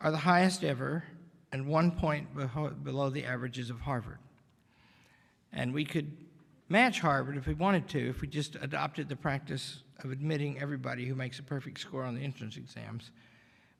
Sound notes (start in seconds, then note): none